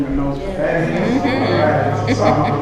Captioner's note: audience affirms